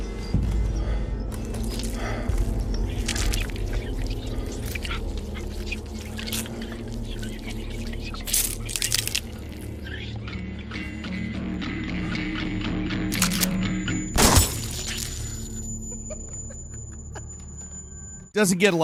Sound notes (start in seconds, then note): 1.5 person panting; 13.1 gun loading; 14.2 gunshot firing; 15.9 person laughing